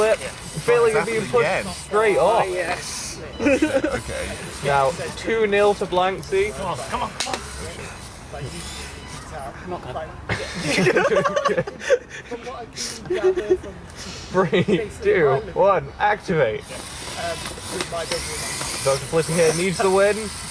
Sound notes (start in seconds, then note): 10.2 laughter